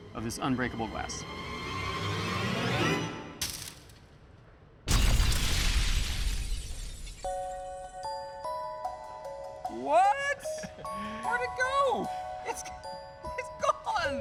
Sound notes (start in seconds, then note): 3.0 glass breaking; 4.8 explosion echoes; 10.5 chuckling